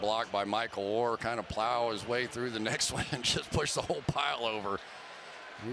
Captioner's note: cheers